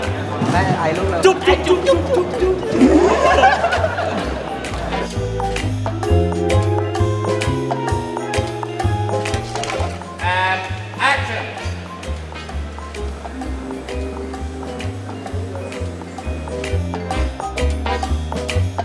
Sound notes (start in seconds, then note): 2.9 blows a kiss; 4.0 laughs